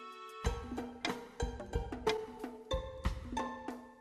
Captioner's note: ticking